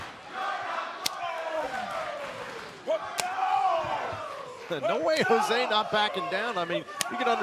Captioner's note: fans chanting